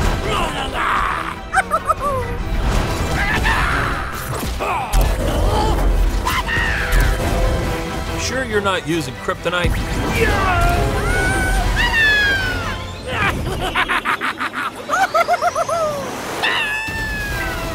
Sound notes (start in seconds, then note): 1.5 giggle; 3.1 combative Scream; 10.2 victory Cheer; 11.0 screams; 13.1 laugh